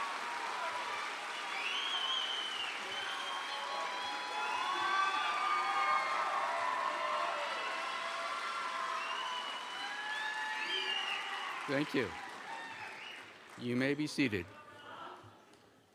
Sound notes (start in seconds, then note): 11.4 applause; 11.4 cheers